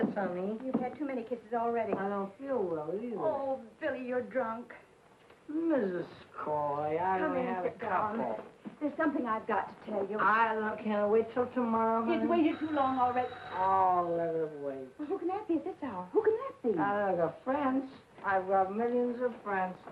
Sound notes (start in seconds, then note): 12.3 doorbell ringing